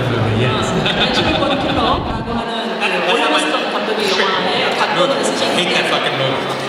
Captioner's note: speaking Korean